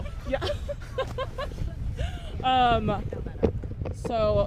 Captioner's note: all chuckling